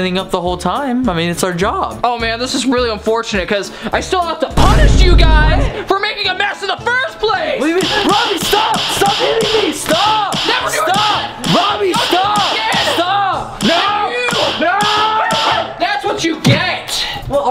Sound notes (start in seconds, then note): 8.0 slapping; 13.6 slapping